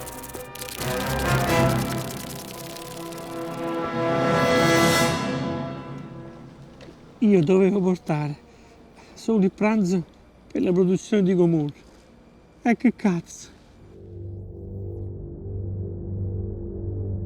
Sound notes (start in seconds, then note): 0.0 hissing sound; 14.0 spaceship sound